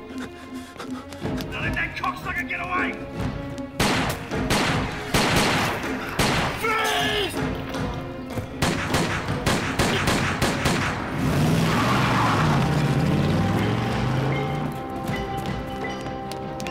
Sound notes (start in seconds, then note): 3.8 gun fire